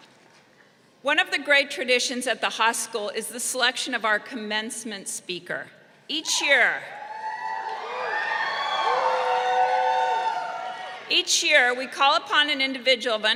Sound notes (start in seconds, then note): 6.9 crowd cheering